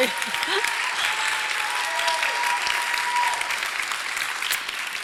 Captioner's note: audience cheers and applause